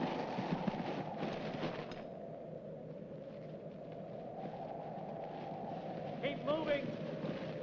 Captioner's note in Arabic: تهب الرياح